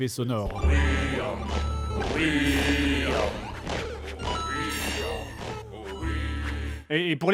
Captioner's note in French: effets sonores bordéliques de jeux vidéo